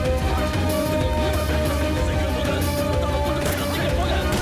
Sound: gun shots

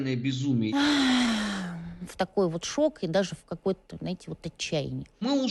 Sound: sighs

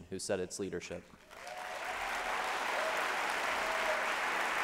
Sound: applause

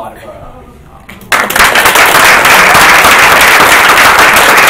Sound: applauding

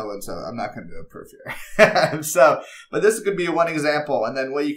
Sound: laugh

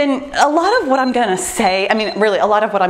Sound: timer beeps

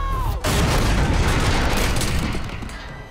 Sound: boom, crash

